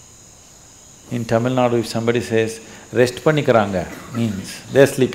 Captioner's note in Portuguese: fala em Tâmil - não transcrito